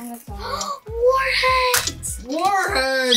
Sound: gasps

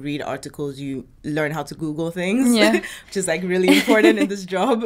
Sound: chuckles; laughs

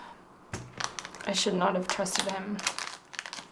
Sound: sighs

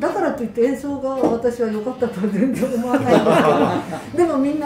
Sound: laughter

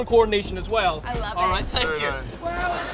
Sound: air escaping sound

